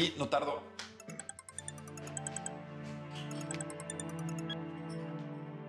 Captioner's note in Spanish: suena el celular